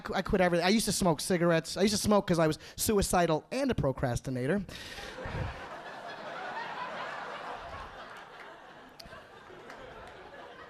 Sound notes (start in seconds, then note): 5.0 audience laughing